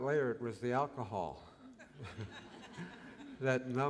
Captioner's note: laughter